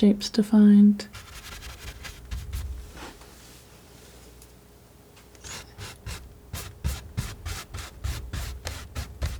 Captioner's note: scratching